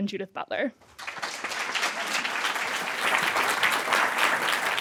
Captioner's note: applause